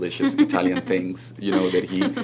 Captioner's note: laughs